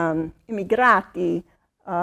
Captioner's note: speaking in foreign language